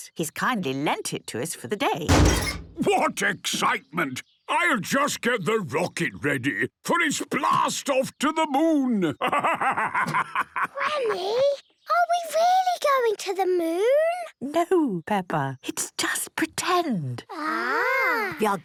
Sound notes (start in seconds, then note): 2.1 metallic door bursting; 10.5 whispers